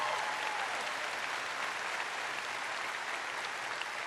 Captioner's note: applause